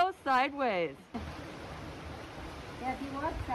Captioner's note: water flowing